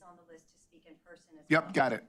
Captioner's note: speaking off microphone